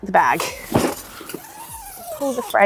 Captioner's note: zip rasping